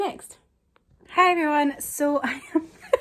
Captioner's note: giggling